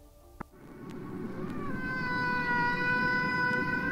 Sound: whale singing

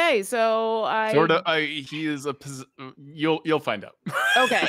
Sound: laughs

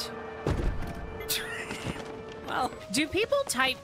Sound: laugh

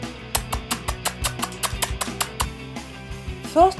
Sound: kissing sounds

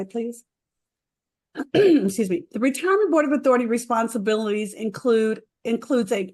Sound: clears throat

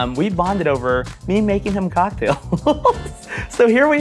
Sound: laughs

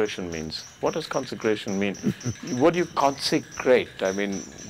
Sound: Sadhguru Laughs

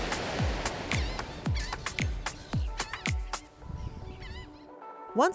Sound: sea birds squawking

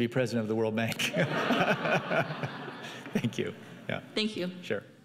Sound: laughing

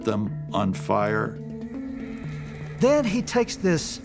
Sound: horses whinnying

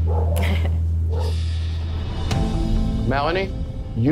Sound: chuckling

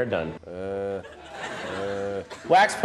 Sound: audience laughter

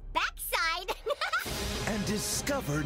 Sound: truck giggles

